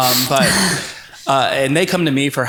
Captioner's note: both laugh